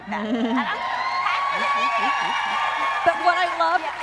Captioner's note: audience cheering